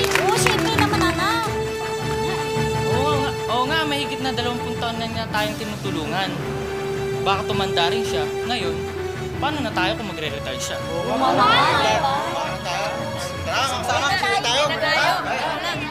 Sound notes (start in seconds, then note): 10.8 crowd agreeing